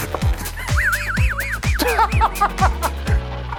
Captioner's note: laughter